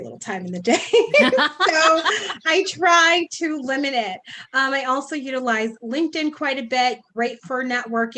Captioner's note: laughs